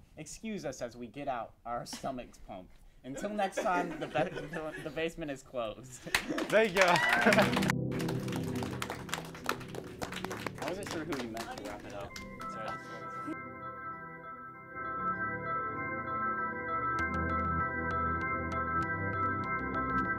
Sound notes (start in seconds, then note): 7.6 applause; 13.7 relaxing music